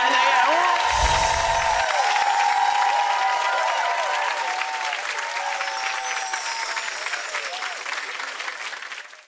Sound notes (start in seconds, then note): 0.8 chimes ring; 1.4 clapping; 5.4 chimes ring